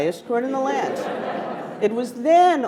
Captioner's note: attendees laughing